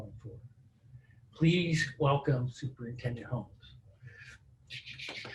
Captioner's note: laughs